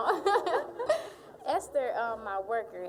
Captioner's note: all laughing